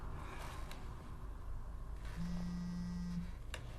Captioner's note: cellulare che vibra